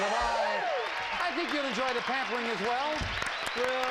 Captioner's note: audience applauding